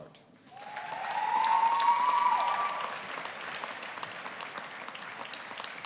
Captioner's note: audience applauding and cheering